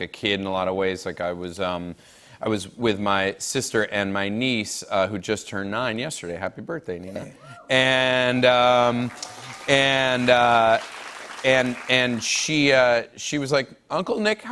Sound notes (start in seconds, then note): 8.5 cheers and applause